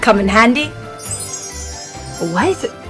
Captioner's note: magic sparkles